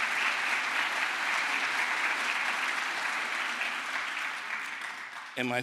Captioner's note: crowd applause